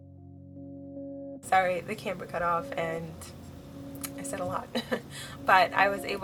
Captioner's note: laughs